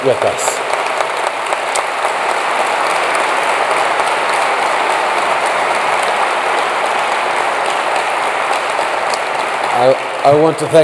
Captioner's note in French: Applaudissements